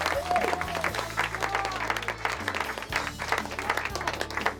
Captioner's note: people applauding